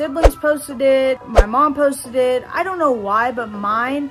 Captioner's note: air whooshes